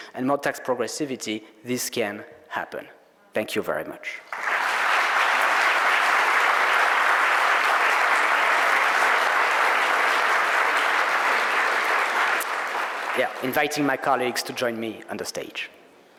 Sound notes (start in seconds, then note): 4.8 audience applauding